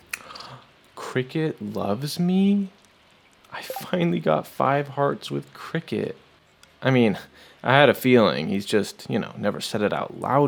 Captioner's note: gasp